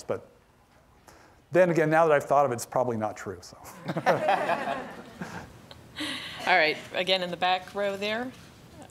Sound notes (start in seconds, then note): 3.7 audience laughing